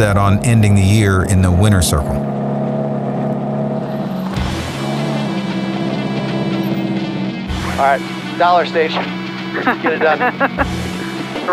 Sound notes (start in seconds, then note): 2.8 engine revving; 4.6 upbeat music